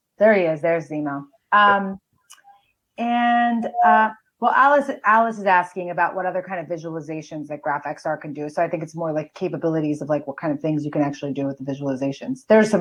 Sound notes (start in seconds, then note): none